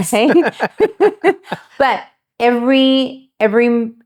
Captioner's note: both laughing